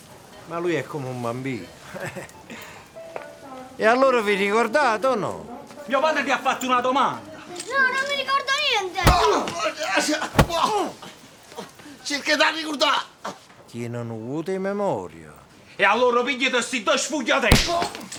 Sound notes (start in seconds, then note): 9.0 punches and kicks